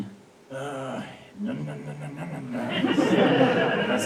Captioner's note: audience laughs